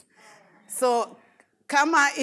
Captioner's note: audience responds